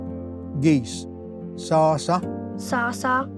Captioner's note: repeats in Cherokee